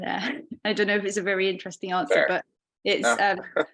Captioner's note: chuckling